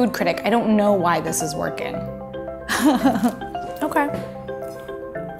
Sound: laughs

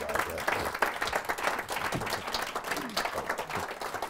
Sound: audience clapping

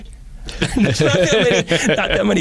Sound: laughter

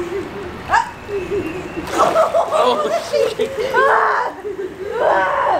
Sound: screaming coming from pool

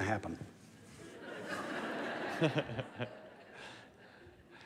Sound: laughter

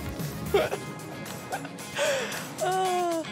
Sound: laughs

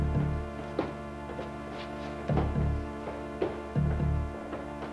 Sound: footsteps thudding

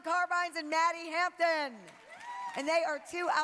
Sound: applause

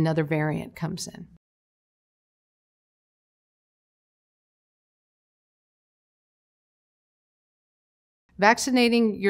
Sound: silence

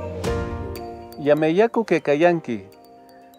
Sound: in quechua language

